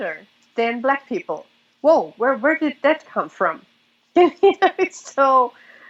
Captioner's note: laughs